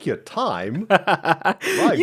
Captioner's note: laughs